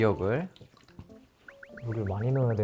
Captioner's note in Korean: 콸콸콸